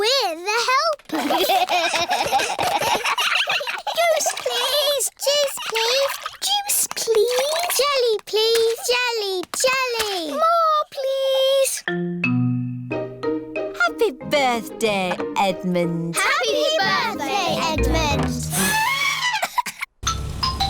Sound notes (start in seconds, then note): 1.1 all giggling; 18.4 trumpets